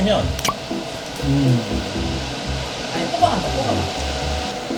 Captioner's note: turbo mode ON! Even stronger suction / Vroooom